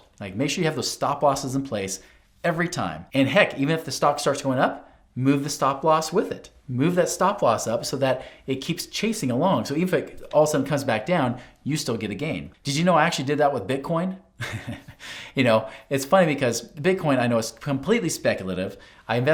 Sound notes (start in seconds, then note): 14.4 laughs